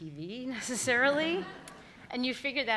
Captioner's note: all laughing